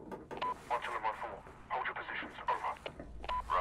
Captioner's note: radio